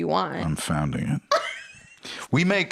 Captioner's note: laughs